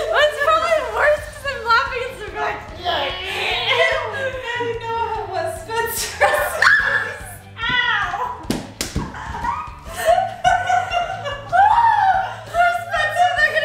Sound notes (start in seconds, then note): 9.0 laughing